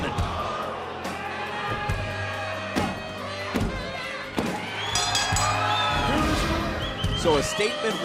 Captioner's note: bell ringing